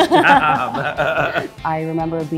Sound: laughs

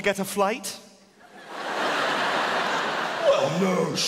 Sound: audience laughing

